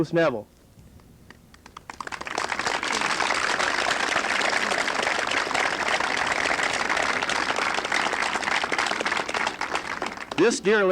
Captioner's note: applause